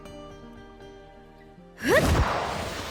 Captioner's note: grunt